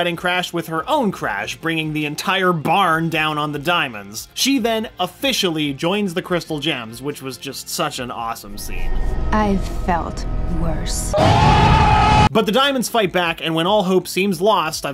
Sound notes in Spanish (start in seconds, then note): 11.1 gritos ahogados